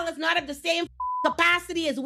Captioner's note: beep